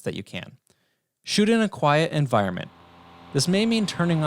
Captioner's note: fan humming